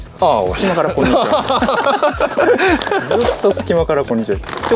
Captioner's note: laughs